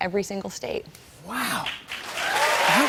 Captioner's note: cheers and applause